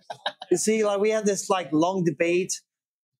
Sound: laughing

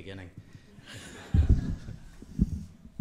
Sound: laughter

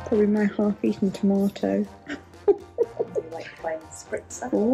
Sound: laughs

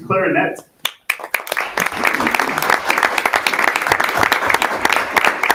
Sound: audience applauding

